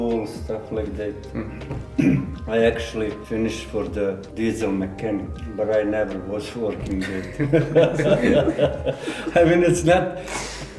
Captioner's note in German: Lacht